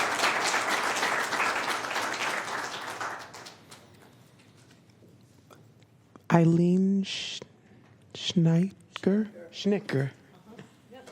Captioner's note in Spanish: Aplausos